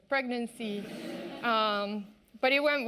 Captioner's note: audience laughing